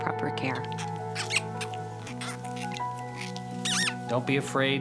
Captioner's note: groundhogs squeaking